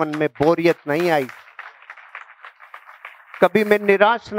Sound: audience : clapping

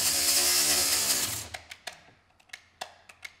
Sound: machine noise stops

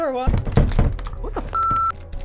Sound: beep; door knob thudding; beep

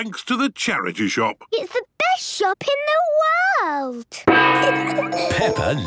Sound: kids giggling

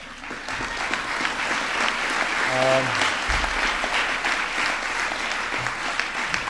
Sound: applause

